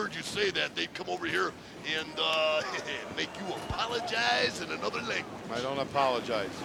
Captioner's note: laugh